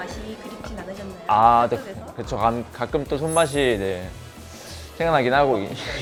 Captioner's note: laughs